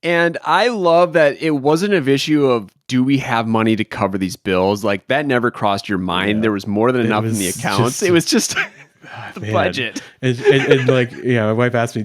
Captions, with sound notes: - And I love that it wasn't an issue of do we have money to cover these bills? Like that never crossed your mind. There was more than enough in the accounts. It was just (chuckles) the budget. - And like, you know, my wife asked me,